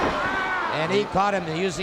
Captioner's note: Flair screams